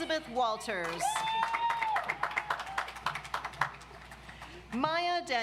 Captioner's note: audience applauds